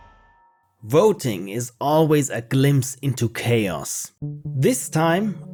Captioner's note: narrating